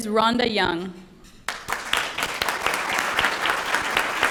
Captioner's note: applause